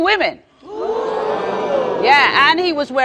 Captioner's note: audience exclaims